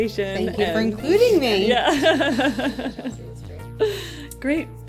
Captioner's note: laughter